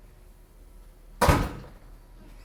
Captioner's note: door slams